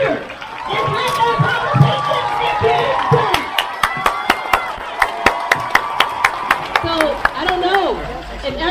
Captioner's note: crowd cheers